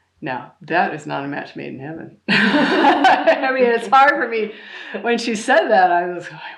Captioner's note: laughter